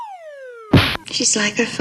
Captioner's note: boom